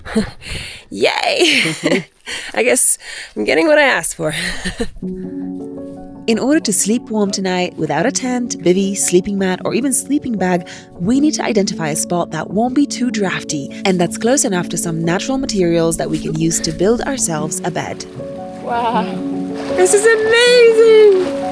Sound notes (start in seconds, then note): 1.3 laughs; 4.6 laughs; 5.0 bright music